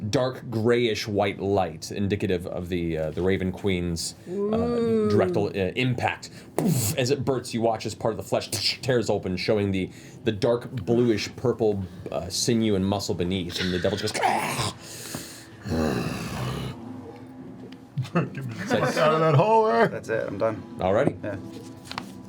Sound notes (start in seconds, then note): 15.6 growls